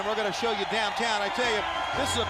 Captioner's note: crowd cheering